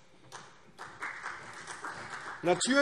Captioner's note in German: Beifall CDU